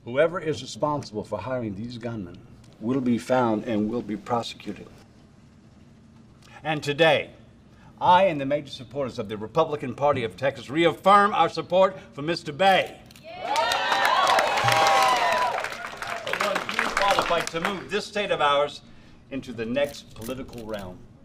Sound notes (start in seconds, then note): 13.2 group cheers; 13.4 group applauds